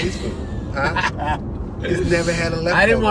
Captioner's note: laughter